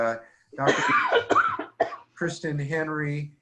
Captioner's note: woman coughing